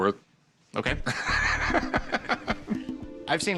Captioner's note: laughter